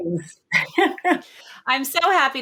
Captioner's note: laughing